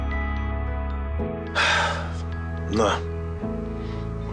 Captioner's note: sighs